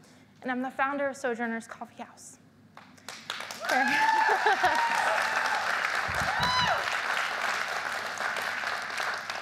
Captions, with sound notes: and I'm the founder of Sojourner's Coffee House, [audience clapping] [audience cheering]